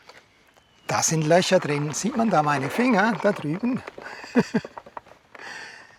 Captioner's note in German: gelächter